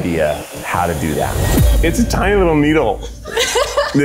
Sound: tattoo machine buzzing

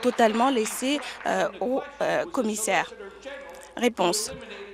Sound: applause

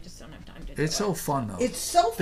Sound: voiceover

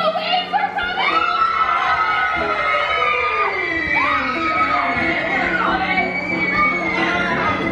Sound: kids screaming

